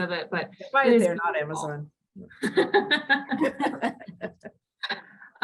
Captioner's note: both laugh